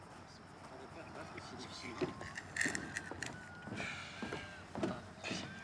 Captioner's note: men chatting and laughing